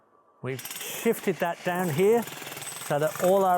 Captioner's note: drill whirring